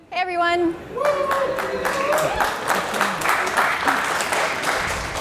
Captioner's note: applause